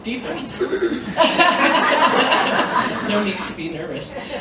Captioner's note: laughter